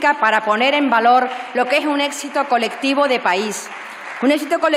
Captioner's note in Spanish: Aplausos